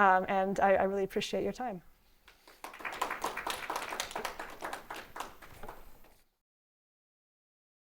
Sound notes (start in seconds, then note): 2.3 audience applauds